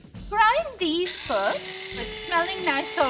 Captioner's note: spice grinder whirring